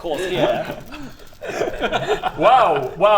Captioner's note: mean giggles